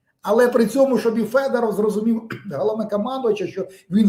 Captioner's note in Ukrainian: прочищення горла